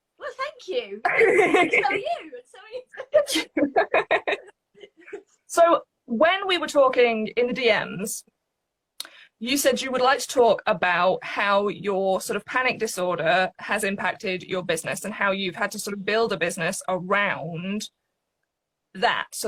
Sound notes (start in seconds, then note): 2.9 both laugh